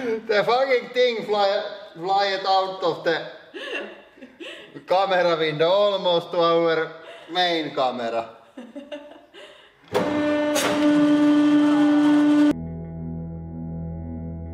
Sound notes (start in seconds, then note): 0.0 both: laughing; 3.5 laughing; 8.5 chuckles